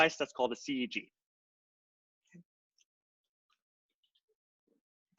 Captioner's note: silence